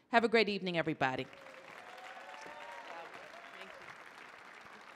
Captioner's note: audience cheering